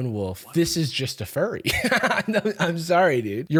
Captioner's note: laughs